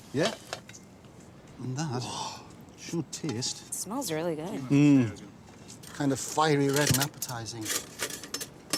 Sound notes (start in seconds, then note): 4.2 gasps